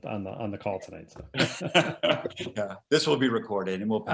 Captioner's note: panelists laughing